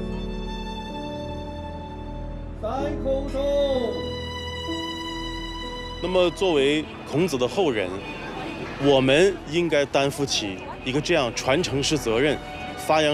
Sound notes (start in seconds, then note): 6.0 speaking Chinese